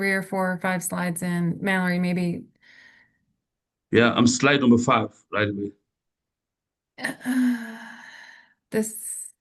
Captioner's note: deep breath